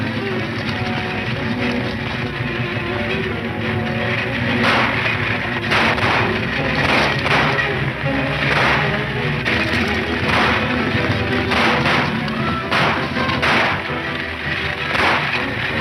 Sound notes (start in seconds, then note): 0.2 dramatic music; 5.6 shots fire